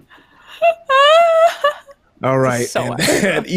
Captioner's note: giggles